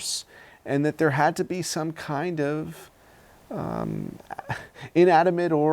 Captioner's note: laughs